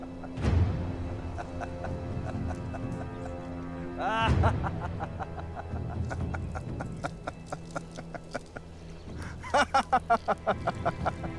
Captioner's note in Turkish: Kahkaha sesleri